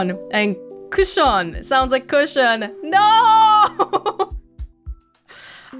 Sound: chuckles

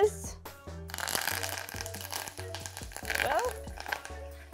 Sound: thyme crackling

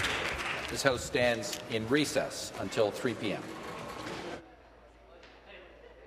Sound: applause

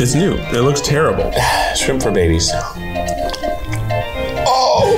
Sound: groans

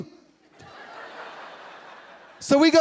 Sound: laughing

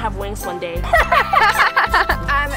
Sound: ladybugs laughing

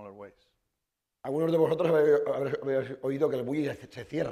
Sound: speaking spanish

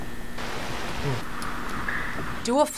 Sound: whispers; static crackles

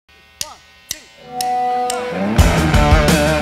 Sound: feedback sound

